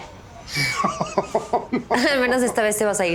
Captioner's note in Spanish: Risas